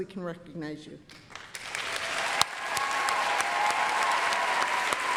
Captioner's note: applause, cheering